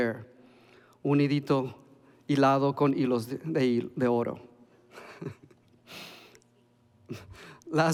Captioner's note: laughs